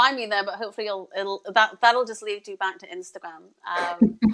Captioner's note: laughs